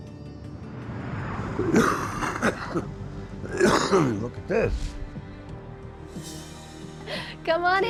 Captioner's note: coughing